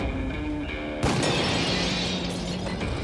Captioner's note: glass breaking; dramatic music